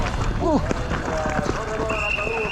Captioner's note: grunting; whistle chirping